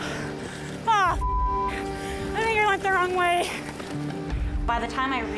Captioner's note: beep